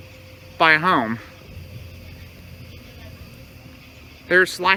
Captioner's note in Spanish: Charla indistinta